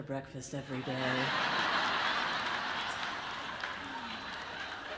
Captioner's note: audience laughs